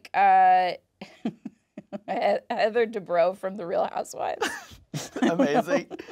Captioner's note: chuckles; chuckles